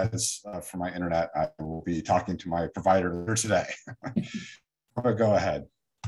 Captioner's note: chuckles